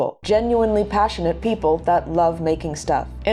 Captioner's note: none